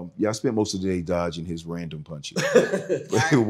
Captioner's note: laughs